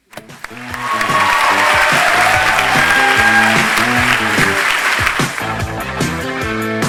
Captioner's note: applause